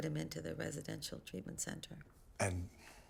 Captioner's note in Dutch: none